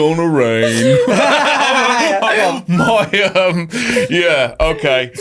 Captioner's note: everybody laughing